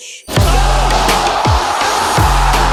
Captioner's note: upbeat music; crowd cheering